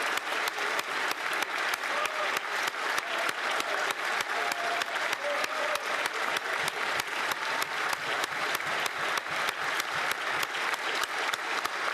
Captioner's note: applause